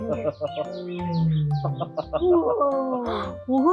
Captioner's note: tiger sound